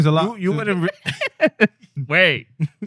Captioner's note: laughing